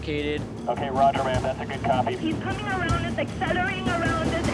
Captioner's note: radio chatter